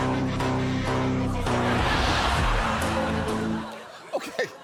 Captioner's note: audience laughs; music concludes